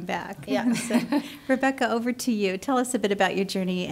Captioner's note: laughs